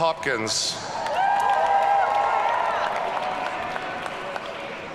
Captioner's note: audience cheering